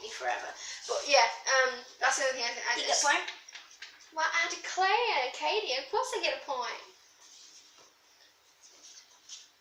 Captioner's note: bad Southern American accent